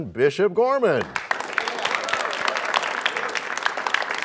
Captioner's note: cheers and applause